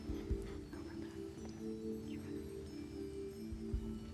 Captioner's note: whispering